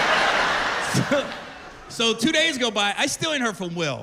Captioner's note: laughter